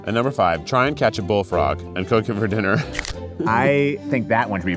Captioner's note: laughs